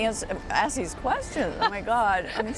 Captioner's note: laughter